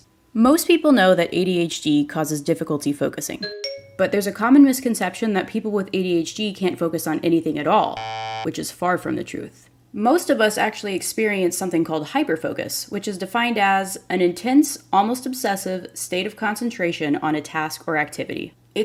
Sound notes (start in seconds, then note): 3.4 CORRECT chime; 7.9 WRONG buzzer